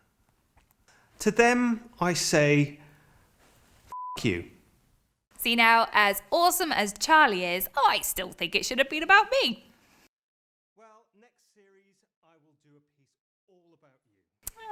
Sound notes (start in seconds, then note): 3.9 beep